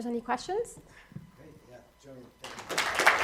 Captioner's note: applause